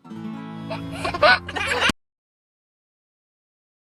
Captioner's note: guitar strum; laughter